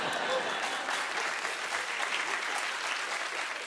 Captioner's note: laughter; applause